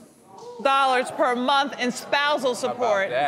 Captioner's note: audience exclaiming surprise